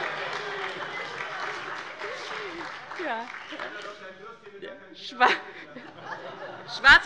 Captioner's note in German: Heiterkeit - Beifall bei Abgeordneten der SPD und des BÜNDNISSES 90/DIE GRÜNEN